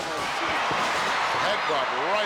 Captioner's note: crowd cheers